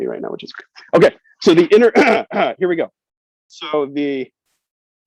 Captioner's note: clears throat